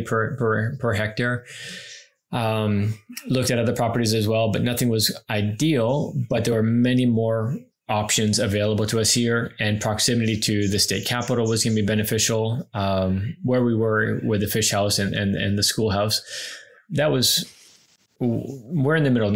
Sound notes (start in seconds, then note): none